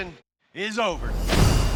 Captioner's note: clanking